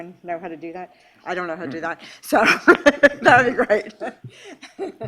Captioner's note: laughs